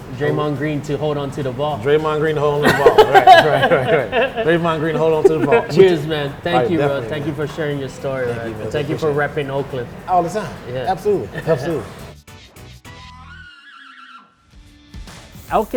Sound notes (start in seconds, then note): 2.6 laughter; 13.0 upbeat music